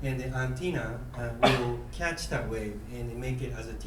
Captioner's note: coughing